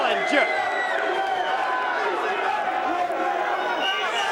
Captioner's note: crowd vocalizing